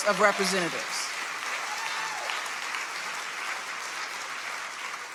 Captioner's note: audience applauding